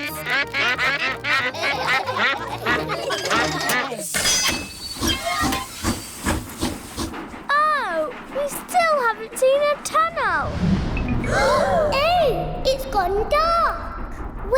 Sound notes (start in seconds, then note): 0.0 all quack; 0.0 laughter; 5.2 train chugs; 11.2 all gasp